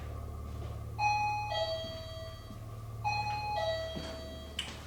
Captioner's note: detector ringing